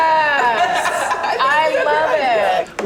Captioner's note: everyone laughs